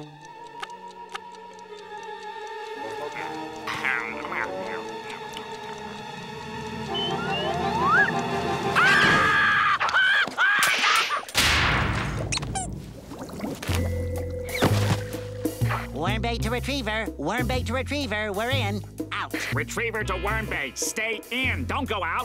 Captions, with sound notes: [ticking] [screaming] [squeaking] Worm bait to retriever Worm bait to retriever. We're in. Out! Retriever to worm bait. Stay in, don't go out.